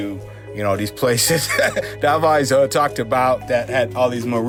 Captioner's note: laughs